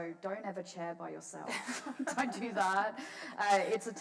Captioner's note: laughs